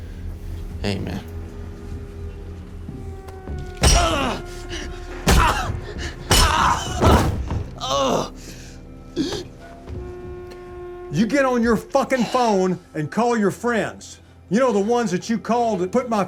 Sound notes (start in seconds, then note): 3.8 grunting; 7.9 gasps